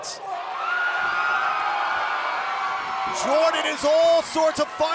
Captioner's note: cheers and applause